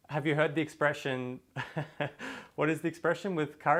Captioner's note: laughs